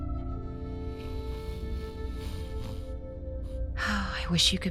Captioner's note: gentle snoring